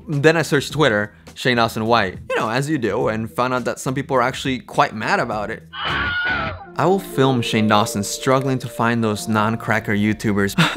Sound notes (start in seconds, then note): 5.7 fx scream